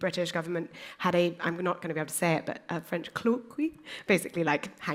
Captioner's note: french